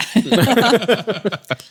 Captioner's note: laughing